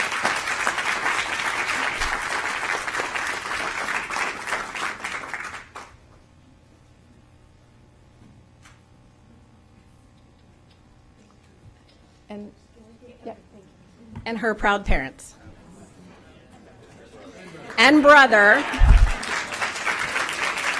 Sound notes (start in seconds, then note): 6.1 applause